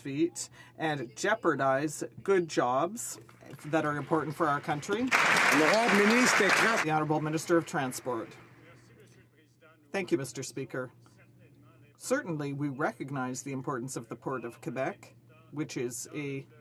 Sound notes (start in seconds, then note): 8.4 some Applause